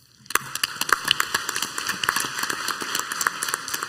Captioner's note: clapping